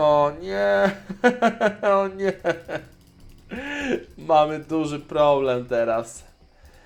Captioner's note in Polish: śmiech